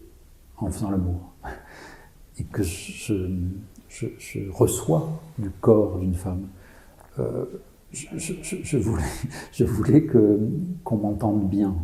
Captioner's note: laughs